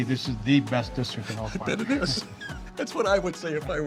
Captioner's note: laughing